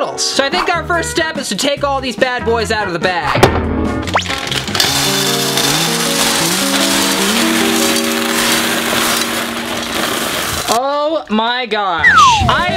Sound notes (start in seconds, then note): 3.4 metal thumping; 3.6 playful music